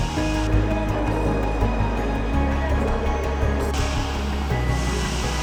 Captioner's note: people chattering; reflective music